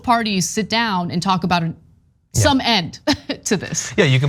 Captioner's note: laugh